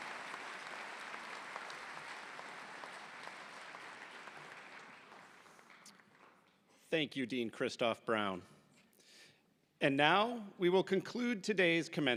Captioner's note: applause